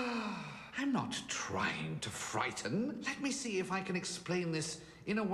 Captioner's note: sighs